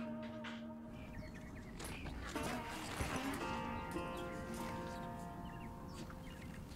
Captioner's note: birds chirping; footsteps thudding